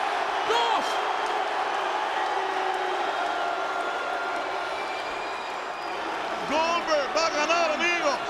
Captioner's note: applause